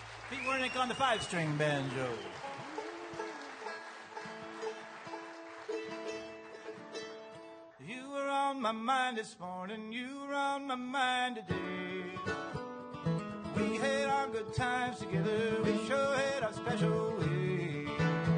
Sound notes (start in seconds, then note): 2.5 applause